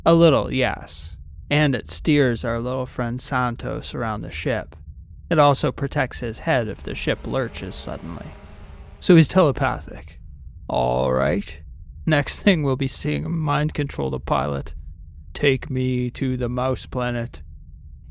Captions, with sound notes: A little, yes. And it steers our little friend Santos around the ship. It also protects his head if the ship lurches suddenly. (Humming drone fans can be heard in the background) So he’s telepathic? All right. Next thing we’ll be seeing him mind control the pilot. Take me to the mouse planet.